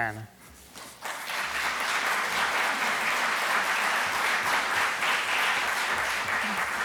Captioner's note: applause